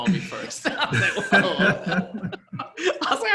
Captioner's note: laughs